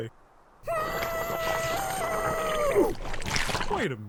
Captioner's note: muffled screaming